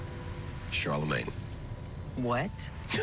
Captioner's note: laughs